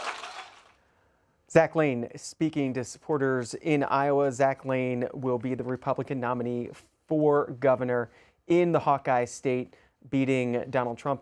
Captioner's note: applause